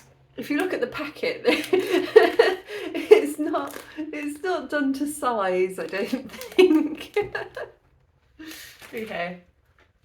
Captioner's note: laughing